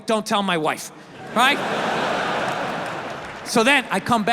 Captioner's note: audience laughs